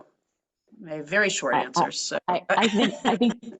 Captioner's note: laugh